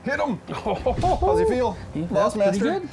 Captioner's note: laughing